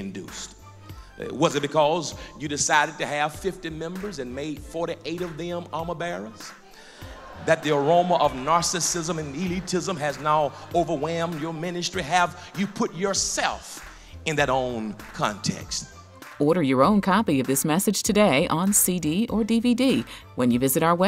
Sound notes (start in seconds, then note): 15.6 voiceover